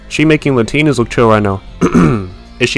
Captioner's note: ahem